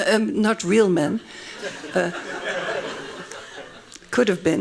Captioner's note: laughing